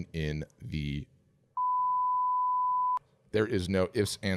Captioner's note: bleeping sound